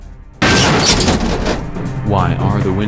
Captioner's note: loud impact